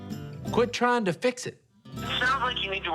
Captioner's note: on phone